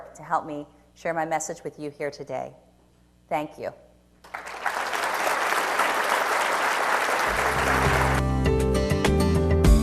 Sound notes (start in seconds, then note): 4.2 applause; 7.2 upbeat music